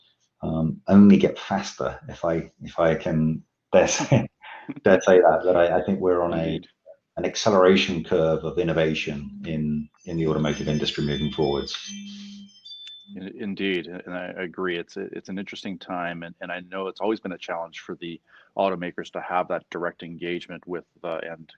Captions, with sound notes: only get faster, If I can bet (laughs gently). That said, I think we're on, an acceleration curve of innovation, in the automotive industry moving forwards. - Indeed. And I agree it's an interesting time. And I know it's always been a challenge for the automakers, to have that direct engagement with the end customer.